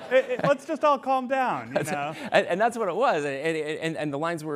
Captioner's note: laughter